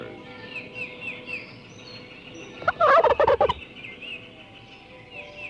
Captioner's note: gobbling